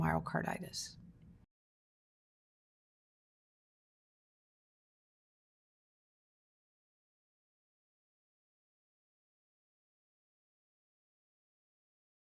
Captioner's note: silence